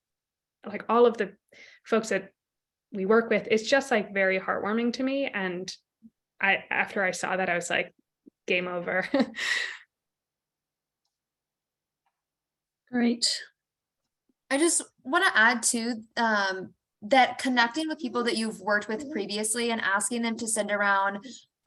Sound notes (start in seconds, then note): 9.0 laughter